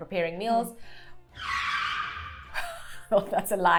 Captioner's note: tires screeching sound effect